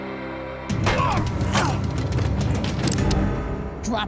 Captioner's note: thunk, groan; gun cocks